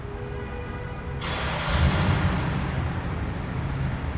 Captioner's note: horn honking